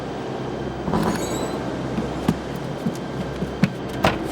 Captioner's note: wind howling